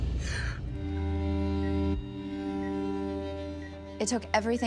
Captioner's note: beeping